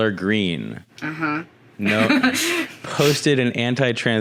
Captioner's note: laughs